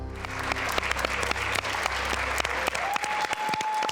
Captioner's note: audience cheering